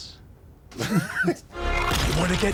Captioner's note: everyone laughs